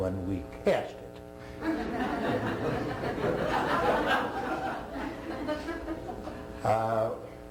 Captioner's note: laughter